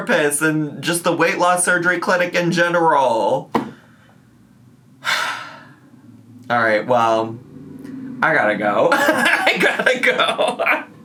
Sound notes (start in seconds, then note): 5.0 sighs; 8.9 laughs